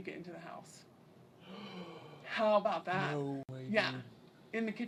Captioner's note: gasps